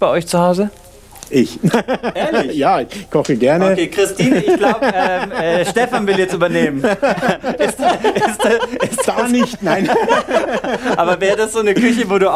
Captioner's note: laughs; laughing